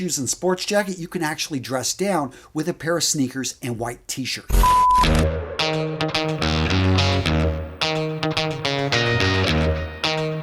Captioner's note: sound effect